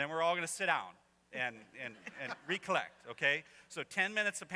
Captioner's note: laughter